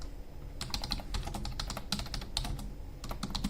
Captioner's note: keyboard tapping